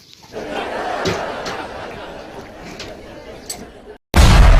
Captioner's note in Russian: смех